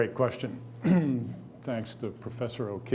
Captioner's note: clears throat